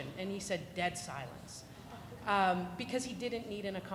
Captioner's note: audience chuckling